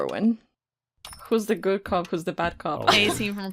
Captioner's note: laughs